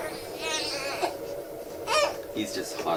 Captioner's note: baby crying